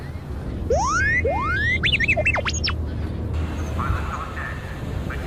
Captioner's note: alarm beeps